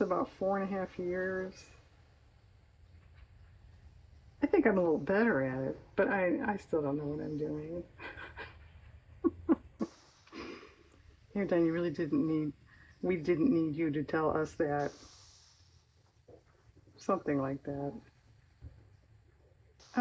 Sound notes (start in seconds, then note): 9.1 laughs